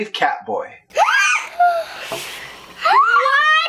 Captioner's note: gasp